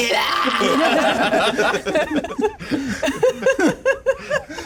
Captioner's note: laughter continues